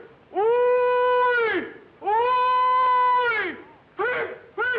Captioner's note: hollering